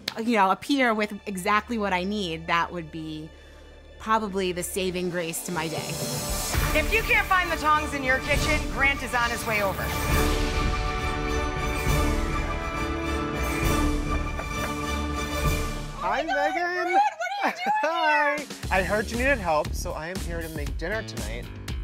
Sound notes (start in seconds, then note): 11.0 dramatic music; 14.3 knocking